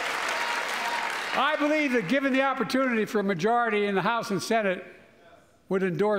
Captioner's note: applause